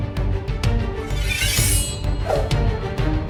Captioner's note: sword unsheathing